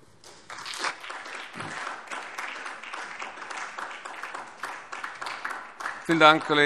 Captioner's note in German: Beifall SPD